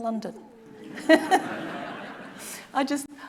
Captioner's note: audience laughing